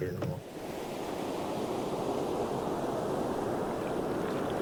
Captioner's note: wind gushing